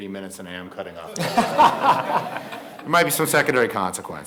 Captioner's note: audience and panelists laughing